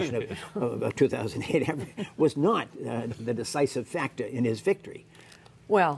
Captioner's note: laughter